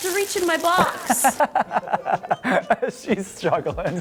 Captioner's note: laughs